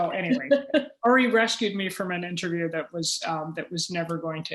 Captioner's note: laughter